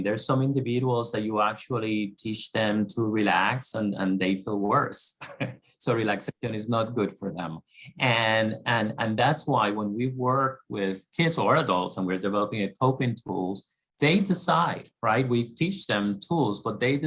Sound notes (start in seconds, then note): 5.2 laugh